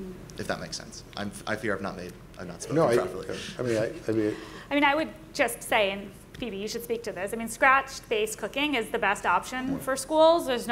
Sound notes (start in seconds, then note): 4.4 stammering